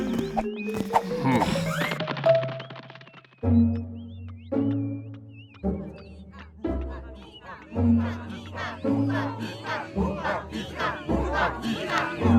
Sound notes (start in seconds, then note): 1.0 grunt; 8.5 group chanting together